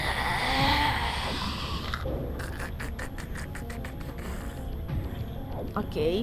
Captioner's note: very angry wheezing and grunts engaged